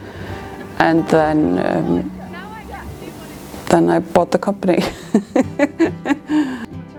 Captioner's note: laughs